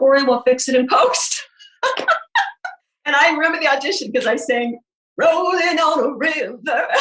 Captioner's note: laughing